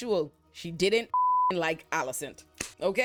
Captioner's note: beep